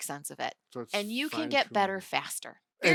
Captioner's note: faintly speaking